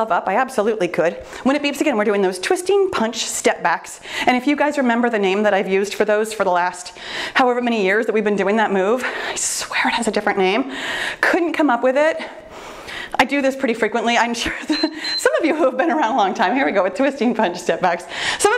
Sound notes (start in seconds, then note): 14.6 timer beeps